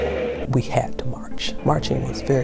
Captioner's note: people shouting